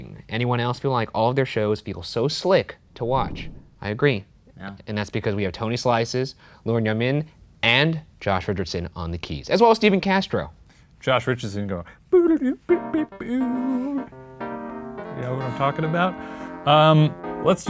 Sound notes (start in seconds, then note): 12.1 humming; 12.5 electronic keyboard music